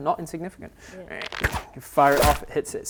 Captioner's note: ptoo